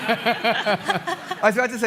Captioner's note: laughter